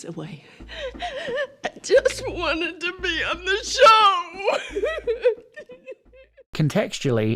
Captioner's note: sobbing